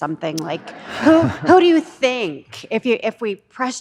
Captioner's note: attendees laughing